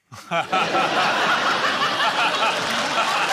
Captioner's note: laughter